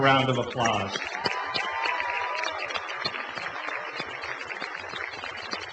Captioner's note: applause and cheering